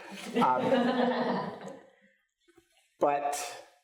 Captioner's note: audience laughs